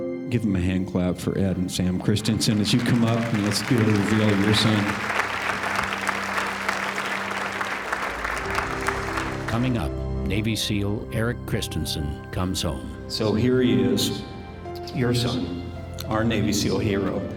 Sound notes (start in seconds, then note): 5.1 applause